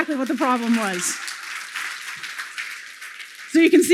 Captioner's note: applause